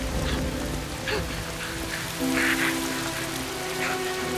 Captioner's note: sobbing